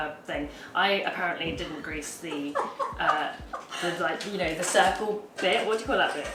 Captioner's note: laughs